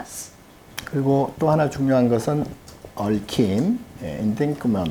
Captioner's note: speaking Korean